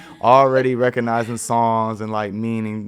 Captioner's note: podcasters chuckling